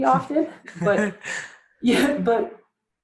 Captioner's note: laughs